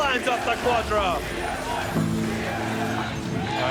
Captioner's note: Crowd chanting "TSM"